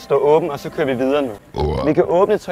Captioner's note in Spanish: Eructo